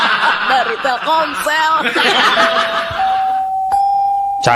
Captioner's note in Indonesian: tertawa